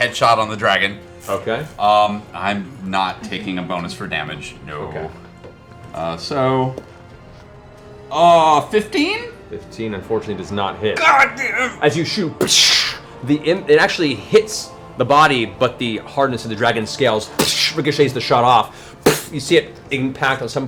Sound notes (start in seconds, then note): 12.4 gunshot; 17.4 ricochet sound